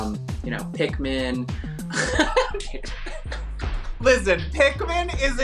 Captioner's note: laughs